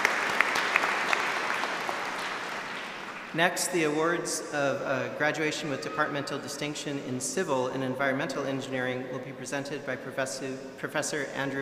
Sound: applause

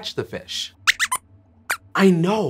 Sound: squeaks squeaks

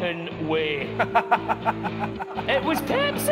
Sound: laughter

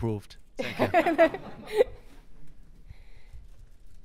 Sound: laughing

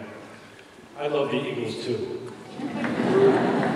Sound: laughter

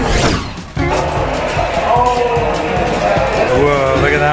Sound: group chattering

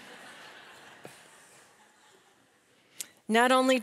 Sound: audience laughing

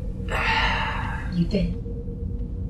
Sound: sigh

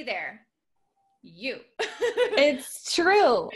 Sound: laughs

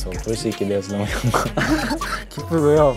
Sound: laughs

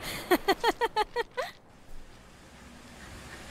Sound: laughs

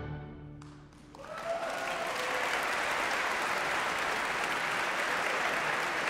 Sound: audience cheering and applauding

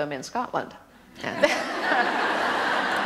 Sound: laughter

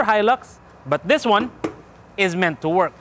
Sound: tap tap

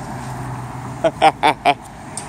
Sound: laughing

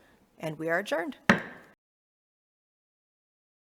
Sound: gavel clacking

